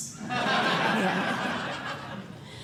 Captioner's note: laughter